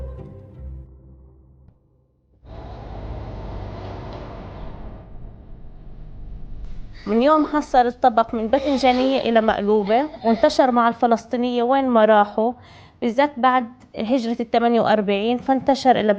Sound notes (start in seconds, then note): 2.4 light music; 7.2 speaking in foreign language